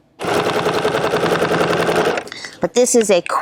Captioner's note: machine whirring